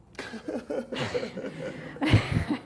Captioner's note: laughter